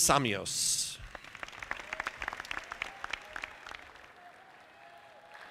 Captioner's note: audience clapping